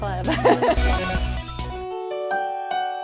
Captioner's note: laughs